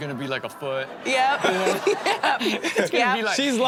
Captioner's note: crowd laughs